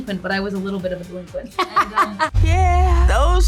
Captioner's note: laughter